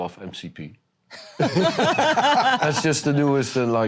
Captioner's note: laughter